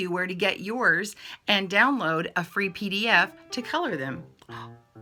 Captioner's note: jazzy music; gasps